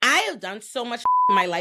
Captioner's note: beep